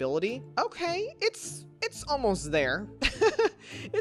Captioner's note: laughs